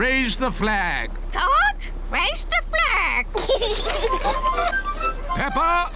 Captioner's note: children giggle